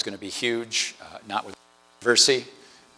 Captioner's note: audio distortion